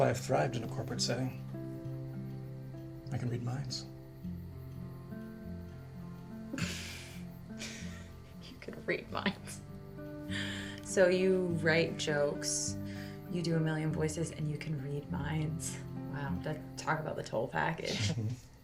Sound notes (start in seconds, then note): 6.5 laughs